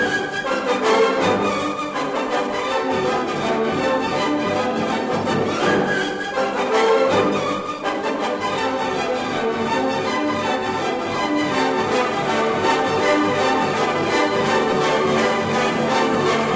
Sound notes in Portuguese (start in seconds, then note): none